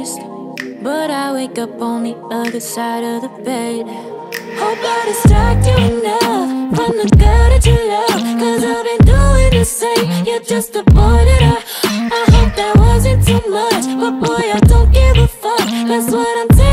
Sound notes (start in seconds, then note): 11.6 gasp